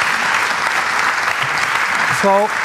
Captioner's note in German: Applaus